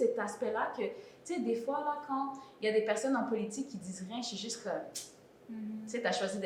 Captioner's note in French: tchuips